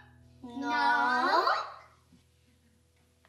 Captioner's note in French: voix d'enfant